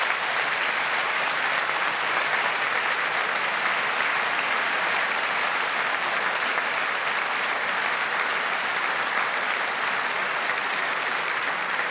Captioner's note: applause